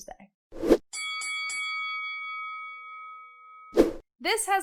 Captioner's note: bell ringing